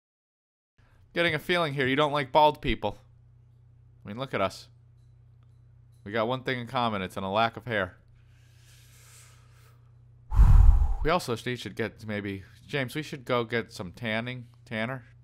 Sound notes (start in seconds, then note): 10.3 breaths in; 10.3 breaths out into the mic